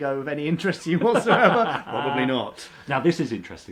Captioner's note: laughs